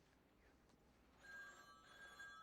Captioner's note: telephone rings